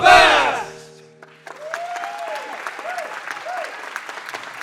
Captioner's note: applause